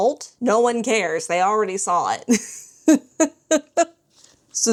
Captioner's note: laughs